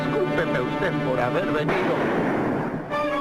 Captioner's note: shot fires